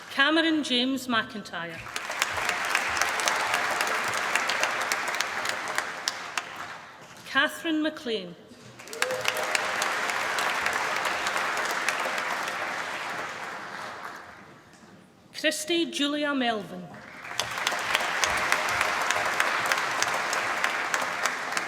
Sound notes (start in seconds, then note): 1.7 applause; 8.6 applause; 16.9 applause